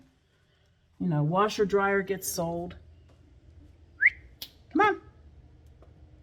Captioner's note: whistle